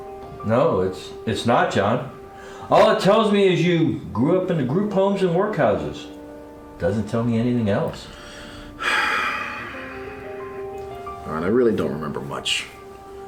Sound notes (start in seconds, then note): 8.2 big exhale from John